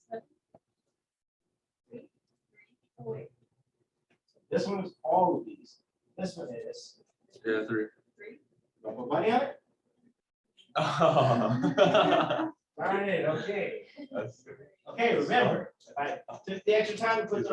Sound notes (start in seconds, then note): 10.8 laughter